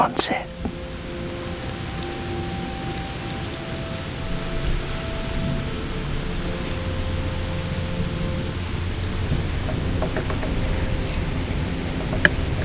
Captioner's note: sound of breeze in the leaves